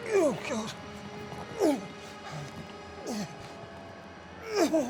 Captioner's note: grunts